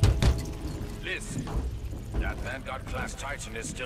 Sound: radio

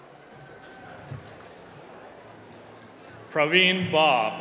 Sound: applause

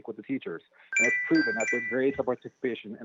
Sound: chime

